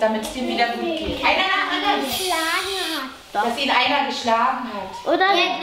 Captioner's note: children shouting